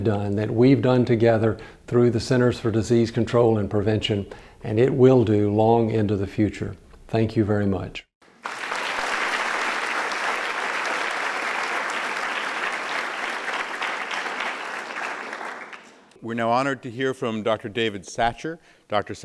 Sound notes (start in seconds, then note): 8.2 applause